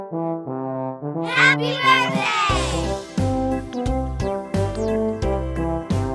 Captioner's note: children shout "Happy Birthday!"